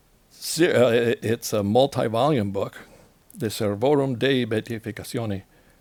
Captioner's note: speaks Italian